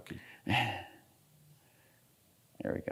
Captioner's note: laughs